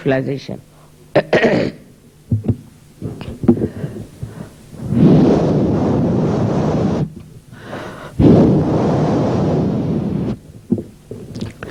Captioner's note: shri mataji breathes into the microphone